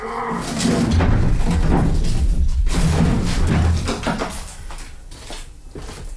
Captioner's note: rumbling noises